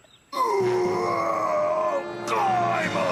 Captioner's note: Owen making bear noises